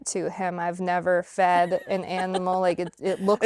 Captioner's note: laughs